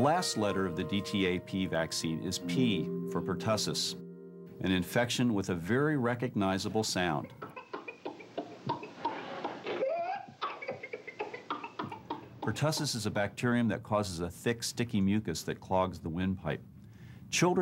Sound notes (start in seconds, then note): 8.2 sound of baby coughing